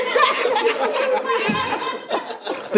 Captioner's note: audience laughing